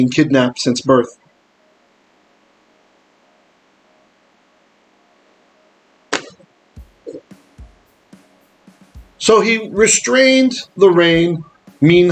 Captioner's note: Hebrew